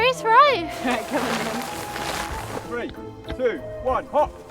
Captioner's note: tent rustling